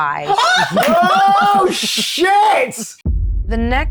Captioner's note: chuckling; speaker chuckling